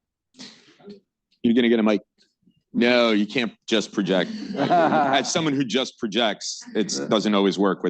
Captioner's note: laughter